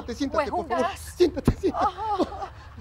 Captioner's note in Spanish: Risas